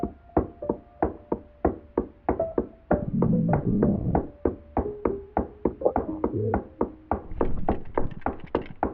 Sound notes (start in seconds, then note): 3.1 muffled voice; 5.8 muffled voice; 7.7 gun clicks